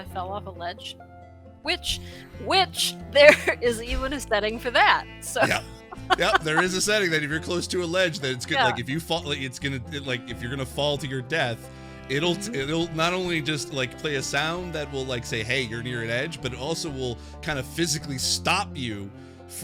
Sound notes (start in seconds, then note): 5.3 laughs